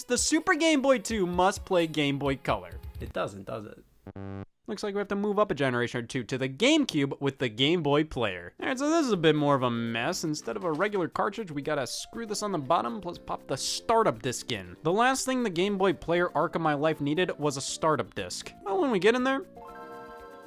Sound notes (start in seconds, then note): 4.1 game buzzing